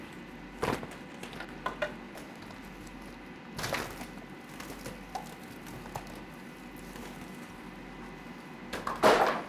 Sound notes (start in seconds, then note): 1.0 materials rattling